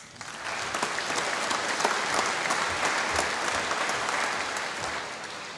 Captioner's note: applause